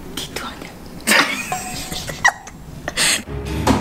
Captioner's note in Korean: 둥, 효과음; 웃음